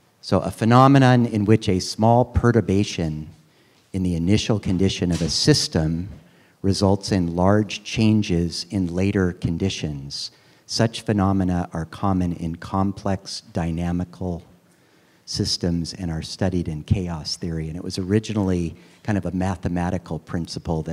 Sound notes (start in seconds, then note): none